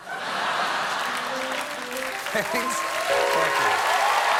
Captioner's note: cheers